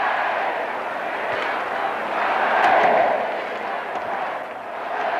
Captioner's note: cheering continues